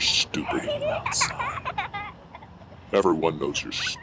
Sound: child laughing

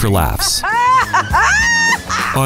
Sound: hysterical laughing

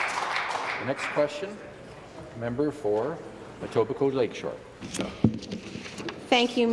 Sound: some Applause

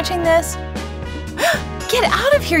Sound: gasp

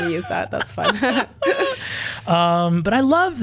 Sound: both laugh

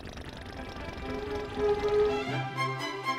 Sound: all growling

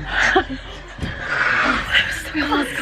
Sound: laughing

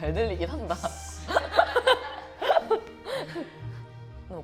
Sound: watching the famous heavy breathing

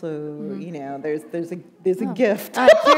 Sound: laughter

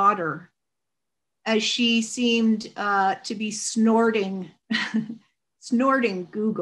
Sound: chuckles

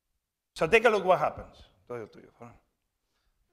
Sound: speaking spanish

